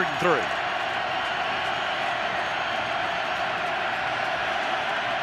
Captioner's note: crowd cheering